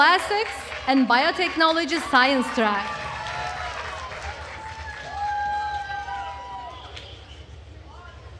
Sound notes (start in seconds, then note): 3.3 attendees cheering and applauding